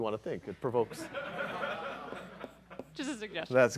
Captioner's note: laughter